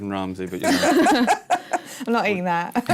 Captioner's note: laughter